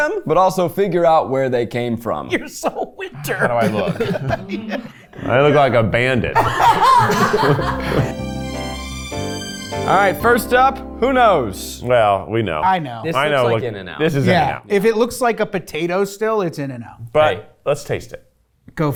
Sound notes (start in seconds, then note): 3.1 laughing; 6.3 all laughing